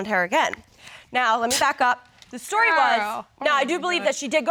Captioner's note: scoffs